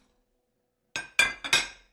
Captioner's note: dishes clatter